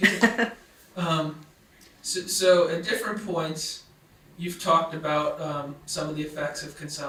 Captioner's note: laughs